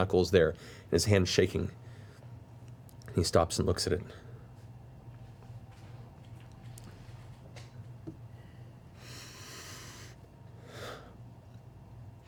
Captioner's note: deep breath